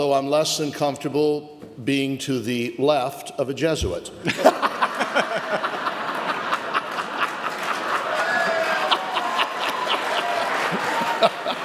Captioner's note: audience laughter